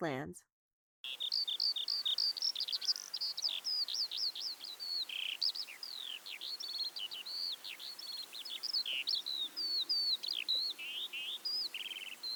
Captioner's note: eurasian Skylark flight song